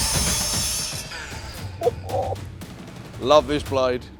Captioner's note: impressed noise